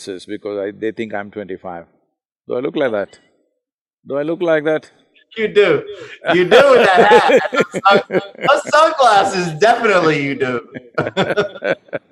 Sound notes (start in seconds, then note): 3.3 laughs; 5.9 Sadhguru laughs; 10.5 both laugh